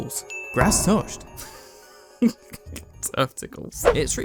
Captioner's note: chuckles